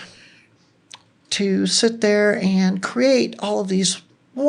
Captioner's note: none